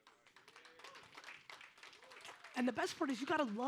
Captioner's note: audience applauds